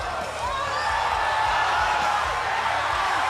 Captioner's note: cheers and applause